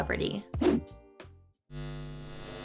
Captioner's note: graphics whooshing; electric buzzing